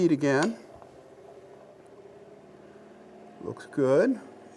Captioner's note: machine roaring